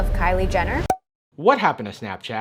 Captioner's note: pop sound